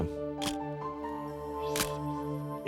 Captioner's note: camera shutter click